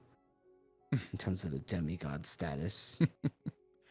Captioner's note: chuckles